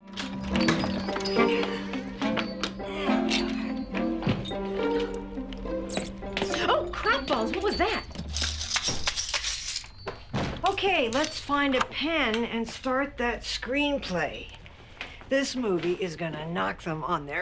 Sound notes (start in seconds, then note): 5.2 squeaks; 7.7 rattling; 9.9 door closes